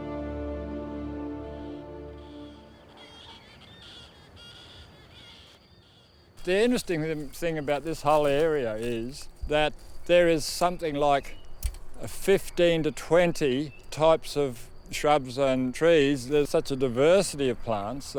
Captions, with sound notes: (birds squawking) - The interesting thing about this whole area is that there is something like 15 to 20 types of shrubs and trees, there's such a diversity of plants